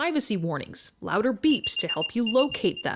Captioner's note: beeping